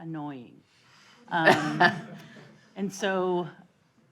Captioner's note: audience laughing